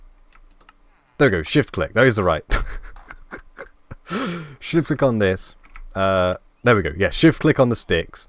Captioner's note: laugh